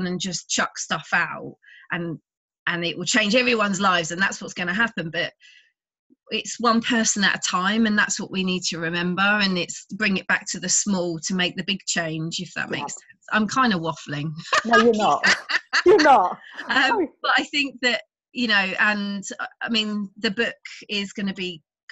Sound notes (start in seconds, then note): 14.4 laughs; 16.6 both laughing